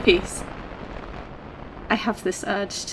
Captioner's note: wind, static, rising and falling